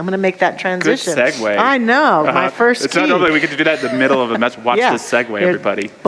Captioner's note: audience laughter